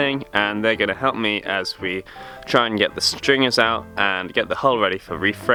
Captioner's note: none